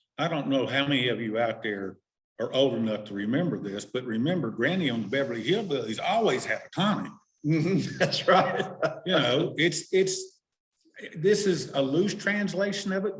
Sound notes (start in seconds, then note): 9.1 laughing